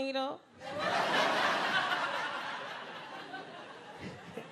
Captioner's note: crowd laughing